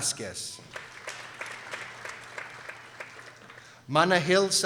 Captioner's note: people applauding